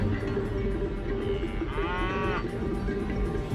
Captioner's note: cattle mooing